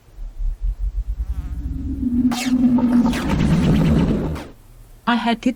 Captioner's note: wind whooshing